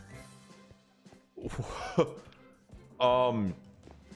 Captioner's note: laughs